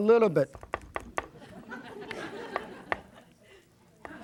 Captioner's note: crowd laughs